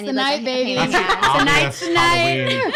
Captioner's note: laughing